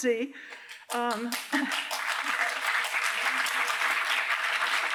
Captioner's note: applause